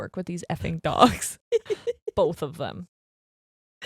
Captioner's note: laughing